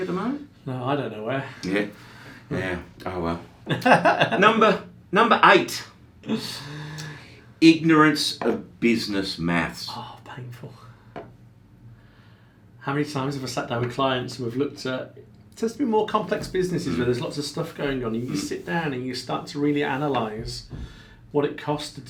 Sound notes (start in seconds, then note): 3.6 laughs